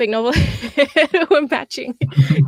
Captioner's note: laughs